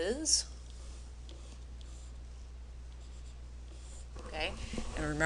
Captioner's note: pen scribbling